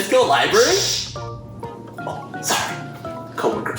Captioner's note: shhh sound